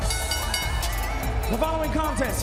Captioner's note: bell ringing